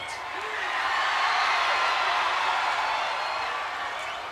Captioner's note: audience cheering